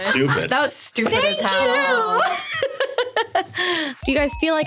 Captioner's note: laughing